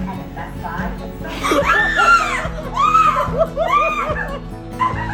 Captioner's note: screams